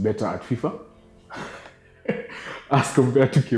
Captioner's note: laughing